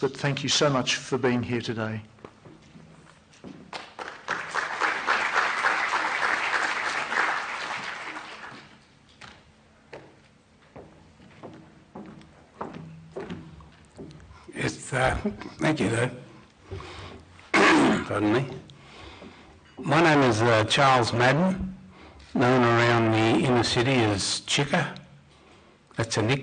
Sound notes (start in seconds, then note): 3.7 applause